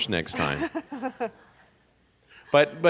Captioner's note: laughs